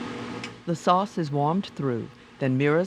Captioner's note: voiceover